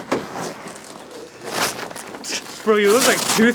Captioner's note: voracious velro ripping